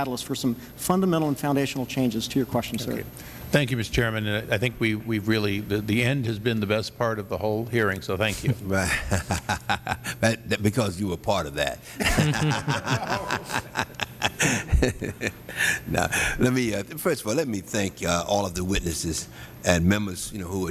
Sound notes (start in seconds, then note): 12.0 laughter